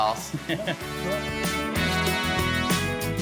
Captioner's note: people laughing; upbeat music